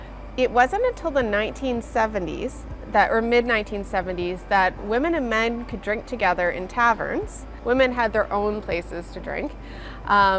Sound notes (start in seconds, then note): none